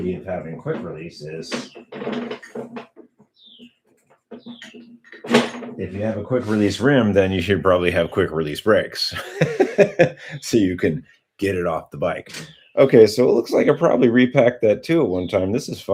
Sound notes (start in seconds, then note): 9.1 laughter